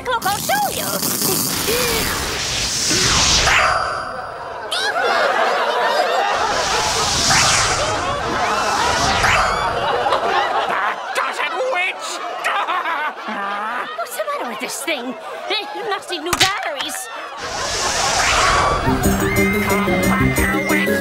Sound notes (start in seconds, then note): 4.1 townspeople laugh; 12.0 Emperor cries out in frustration